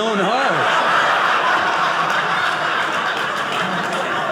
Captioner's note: audience laughing